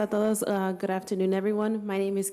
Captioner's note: foreign speaking